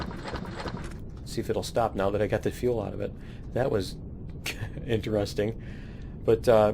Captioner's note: laughs